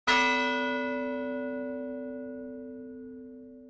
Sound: bell rings

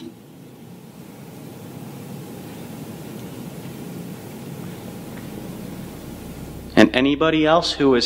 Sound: footsteps

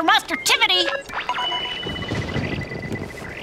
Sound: beeping

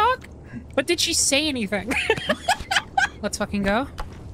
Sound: laughter

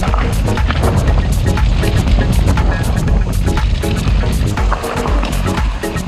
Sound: tires going through rocks

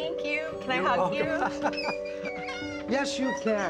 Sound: laughs

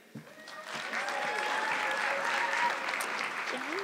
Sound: audience clapping

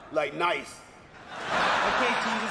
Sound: audience laughing

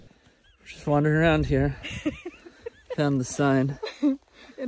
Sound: chuckling

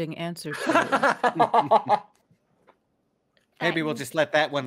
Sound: laughing

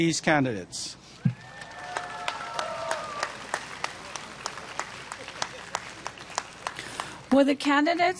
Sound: applause

